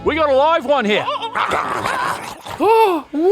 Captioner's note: emu munching